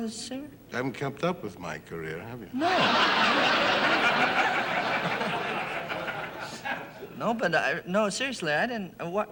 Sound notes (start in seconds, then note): 2.6 audience laughing